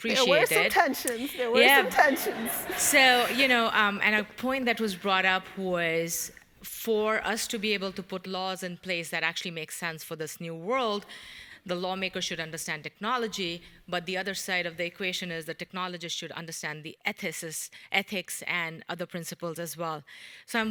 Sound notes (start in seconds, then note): 2.3 audience laughing